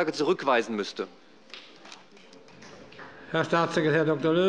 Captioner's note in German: Beifall bei Abgeordneten der SPD